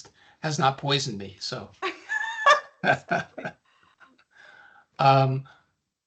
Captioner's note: laughing